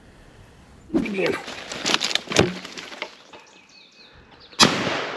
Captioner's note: leaves rustling; gunshot